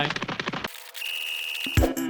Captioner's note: whistle blows